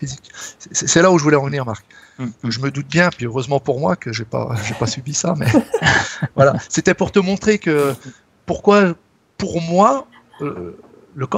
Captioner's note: laughs